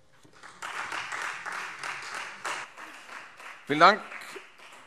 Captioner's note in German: Beifall Freie Demokraten